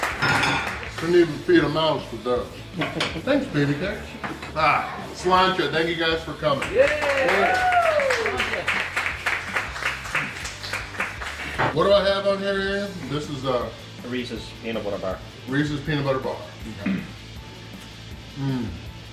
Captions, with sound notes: Couldn't even feed a mouse with that. Thanks, baby cakes. Sláinte (cheers), thank you guys for coming!! Yay!! What do I have on here, Ian? This is a Reese's Peanut Butter Bar. Reese's Peanut Butter Bar. Okay.